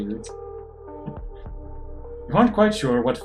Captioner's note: chuckles